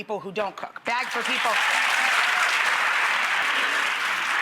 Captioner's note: audience claps